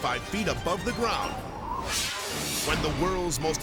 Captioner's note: graphics whooshing